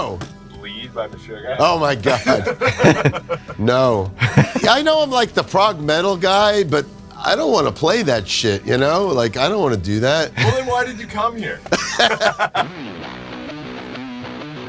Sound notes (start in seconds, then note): 1.6 laughs; 11.6 laughs